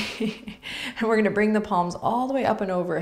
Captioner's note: laughs